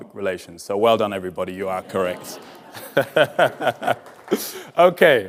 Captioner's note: chuckling